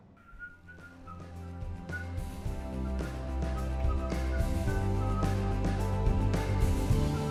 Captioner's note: Ernesto whistling